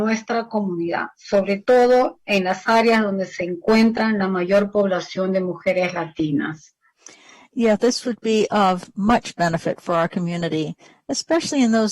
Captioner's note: speaking spanish